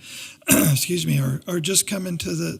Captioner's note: clearing throat